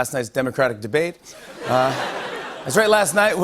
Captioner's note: laughter